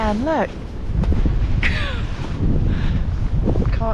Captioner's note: laughing